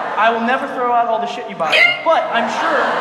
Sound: audience laughs; sob

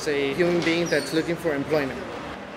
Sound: cars passing

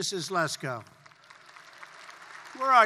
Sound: applause

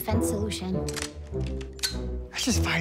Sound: gun cocking

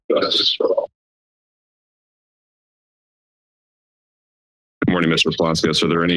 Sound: silence

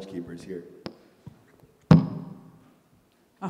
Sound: microphone clunks; indigenous speaking

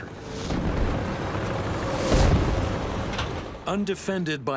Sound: cannon shots exploding

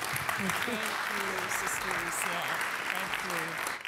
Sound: applause

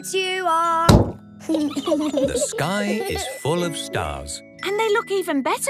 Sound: giggling

